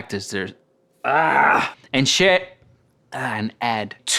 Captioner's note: groans